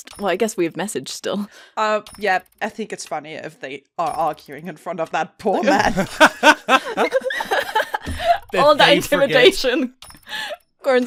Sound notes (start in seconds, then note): 5.7 laughter